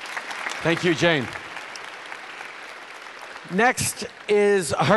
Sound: applause

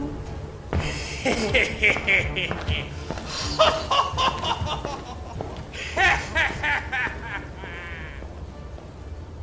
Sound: footsteps trailing off; maniacal laughter; music fades out

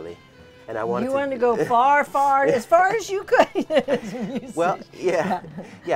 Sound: laughs

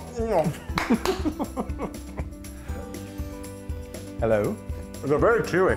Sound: applause; laugh

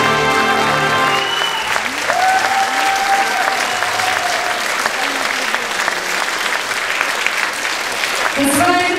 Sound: applause

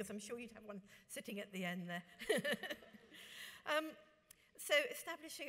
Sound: laughs

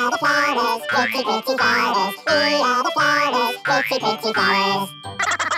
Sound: laughter

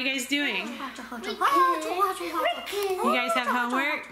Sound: makes silly sounds

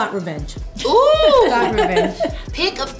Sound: laughs

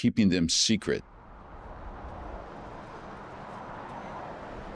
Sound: car swooshing

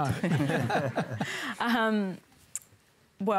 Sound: laughter

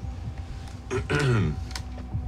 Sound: clears throat

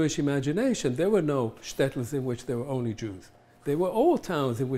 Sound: hebrew

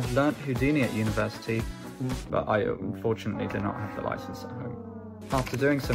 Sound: cry

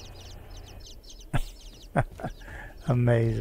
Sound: chuckles

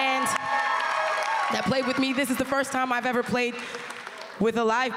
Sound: applause

